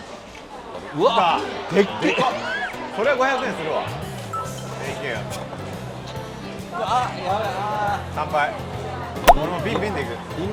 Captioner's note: they cheer with giant bottles beer